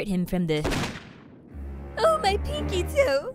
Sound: gunshot

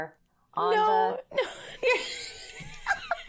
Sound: laughs

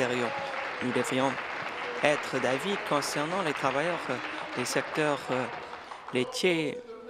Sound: applause

